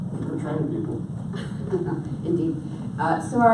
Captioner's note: laughs